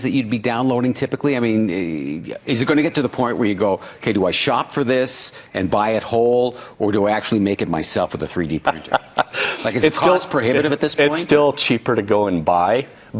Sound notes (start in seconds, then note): 8.6 laughing